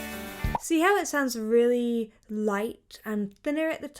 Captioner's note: bubble popping